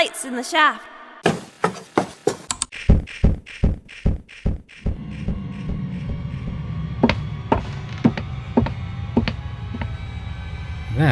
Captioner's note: footsteps, lights turning on